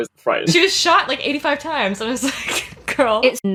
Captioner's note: laughing